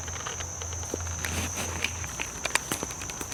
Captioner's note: creaking continues